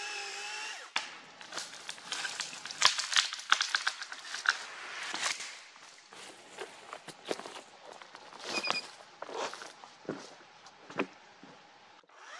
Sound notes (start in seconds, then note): 1.4 wood cracking, tree falling down; 6.1 footsteps in leaves and branches, turning on the chainsaw; 12.1 chainsaw running